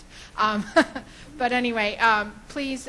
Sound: laughs

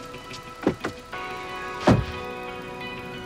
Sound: car door slams; engine revs

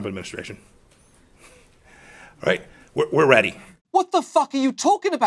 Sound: chuckles

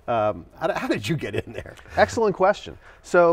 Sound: laughs

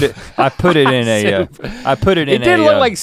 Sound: laughs; Link sputters

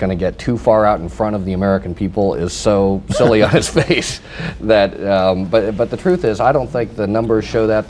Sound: laughter

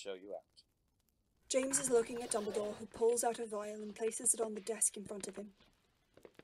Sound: footsteps fading

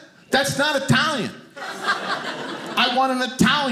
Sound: audience laughing

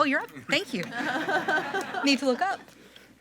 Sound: group laughing

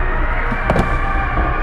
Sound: silent thump

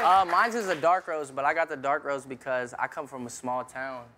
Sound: cheers and applause

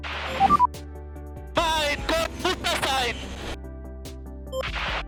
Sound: in German

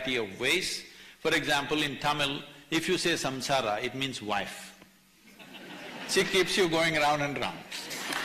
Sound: laughter; laughter/Applause

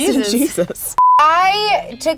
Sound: beep

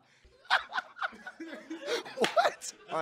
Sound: laughing

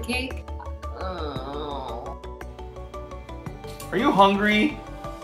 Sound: groans

